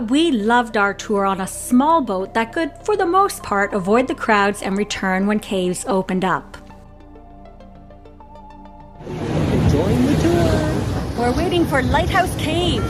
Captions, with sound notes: for the most part, avoid the crowds and return when caves opened up. - Join the tour. (waves breaking) - We're waiting for Lighthouse Cave. (alarm beeping) Traffic jam.